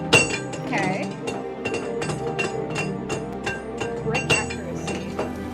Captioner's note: Taco Bell bong